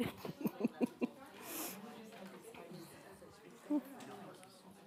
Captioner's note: attendees chattering